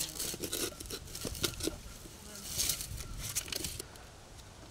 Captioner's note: tube clattering